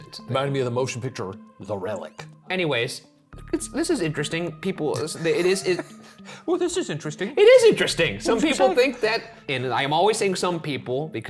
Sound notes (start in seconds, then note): 5.1 laughs